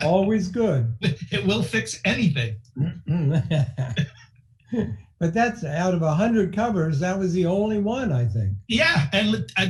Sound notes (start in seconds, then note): 2.8 laughing